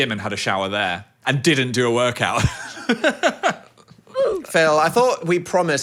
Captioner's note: laughing